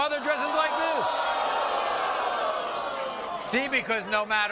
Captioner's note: audience moaning